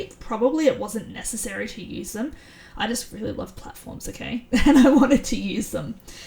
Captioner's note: chuckles